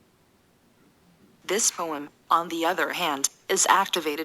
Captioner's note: electronic Voice